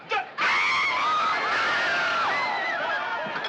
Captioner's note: crowd Screams; screams